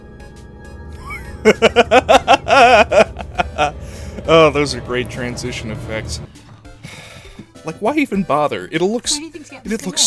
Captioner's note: laughter; sigh